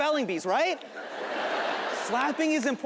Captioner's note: audience laughing